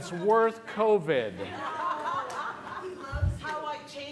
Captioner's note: laughter